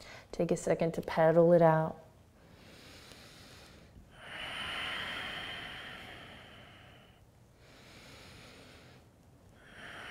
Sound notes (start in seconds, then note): 2.6 breathing